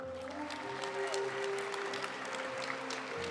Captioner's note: audience applauding; graduation music